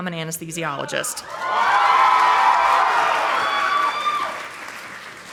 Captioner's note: audience applauding